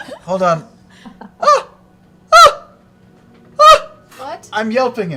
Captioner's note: high-pitched cries